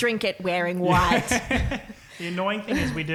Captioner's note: laughing